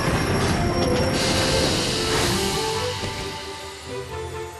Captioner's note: train chugging; engine hisses